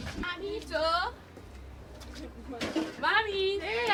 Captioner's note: calling in non-English